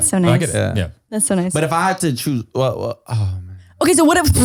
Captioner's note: sighs